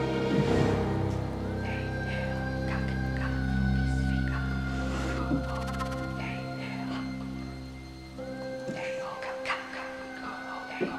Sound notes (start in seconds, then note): 1.7 whispering